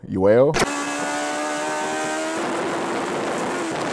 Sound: engine revving

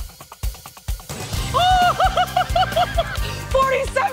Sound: laughs

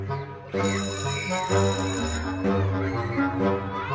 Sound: playful music; bell ringing; children chattering

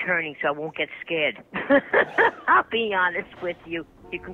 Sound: laughs

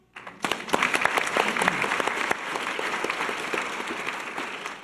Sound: audience applause

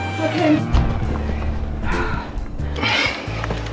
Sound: release of head breath

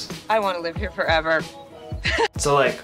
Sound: chuckles

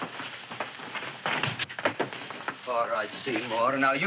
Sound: scuffling

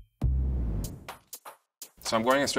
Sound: mellow dance music; whooshing

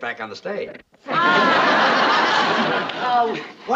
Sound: laughing

